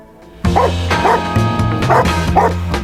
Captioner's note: barking